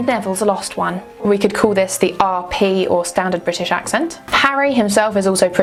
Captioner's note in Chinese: 标准英式口音